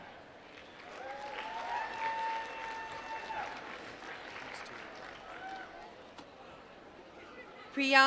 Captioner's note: applause